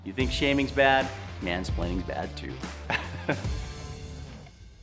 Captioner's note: chuckles; upbeat rock music